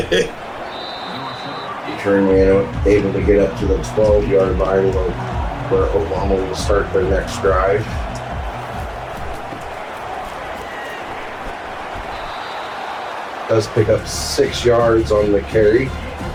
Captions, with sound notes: [LAUGH] You turn you're able to get up to the 12 yard line where Obama will start the next drive. [Crowd Noises] Does pick up six yards on the carry.